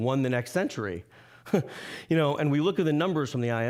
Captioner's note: chuckling